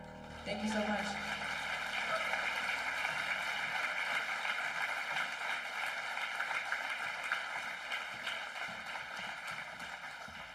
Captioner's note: applause